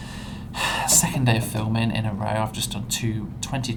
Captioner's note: sighs